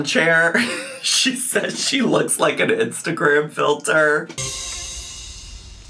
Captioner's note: laughs